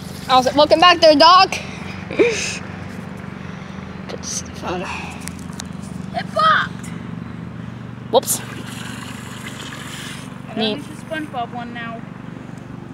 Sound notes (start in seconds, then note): 2.0 laughs lightly